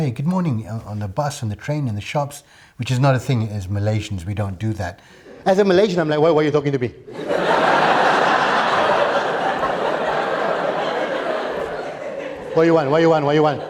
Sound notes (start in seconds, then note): 7.1 laughter